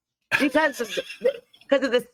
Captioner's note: giggling